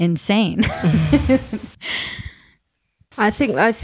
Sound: laughing

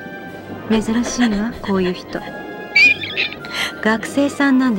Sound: heavy breathing

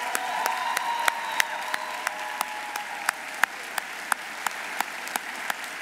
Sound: audience cheering; audience applauding

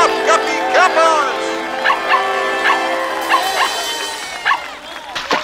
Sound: barking

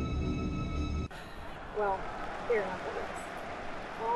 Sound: football game playing

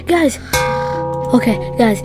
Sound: metal Hit SFX

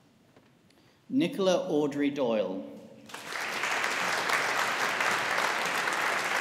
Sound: audience applauding

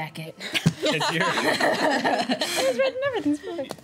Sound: laughing

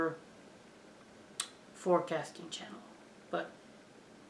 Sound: hard tongue click

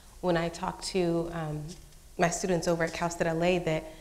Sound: none

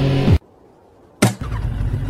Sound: bam

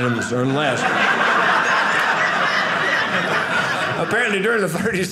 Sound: audience laughing

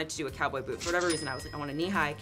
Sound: cash register ringing

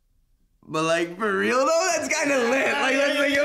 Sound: laughing

